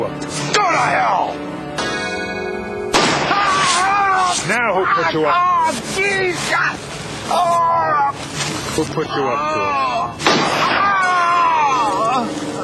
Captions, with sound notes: -GO TO HELL! (GUNSHOT) -NOW WHO PUT YOU UP TO IT? -OH GOD, PLEASE, GOD! -WHO PUT YOU UP TO IT? (GUNSHOT)